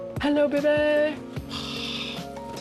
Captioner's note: exhales